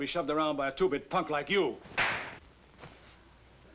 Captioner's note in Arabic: يصفع